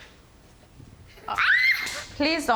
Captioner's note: squeals